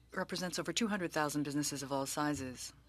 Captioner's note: speaking french